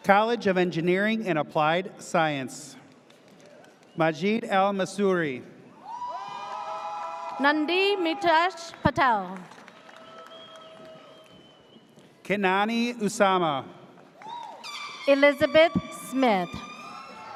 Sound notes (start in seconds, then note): 5.8 audience cheers; 14.2 audience cheers; 14.2 air horn blares; 17.1 audience cheers